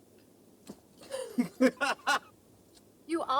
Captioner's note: laughing